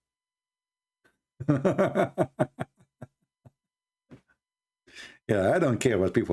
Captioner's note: Ketawa